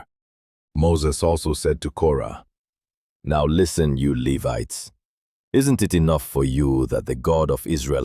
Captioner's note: sternly